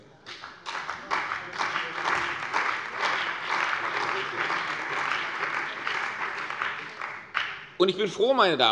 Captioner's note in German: Beifall bei der CDU und dem BÜNDNIS 90/DIE GRÜNEN